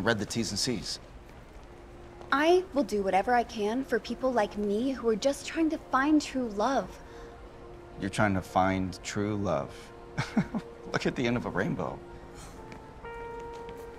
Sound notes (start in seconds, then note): 10.3 scoffs; 12.2 sighs